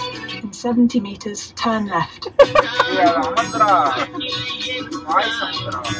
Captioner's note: laughs